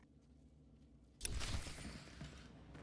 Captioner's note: footsteps